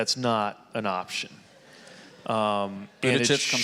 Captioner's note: audience laughing